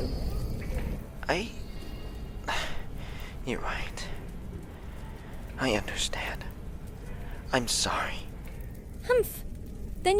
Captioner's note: sigh